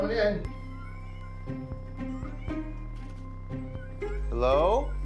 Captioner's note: cats meowing